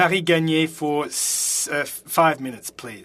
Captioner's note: speaking French